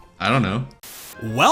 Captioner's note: static